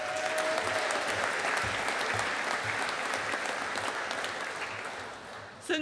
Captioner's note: audience applauding